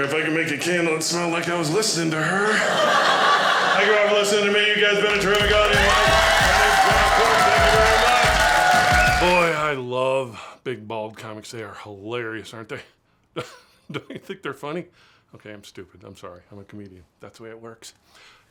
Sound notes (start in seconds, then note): 2.0 audience laughing